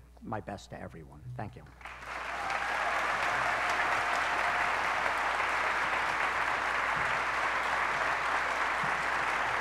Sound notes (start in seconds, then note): 1.8 applause